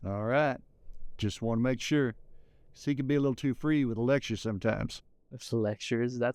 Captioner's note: none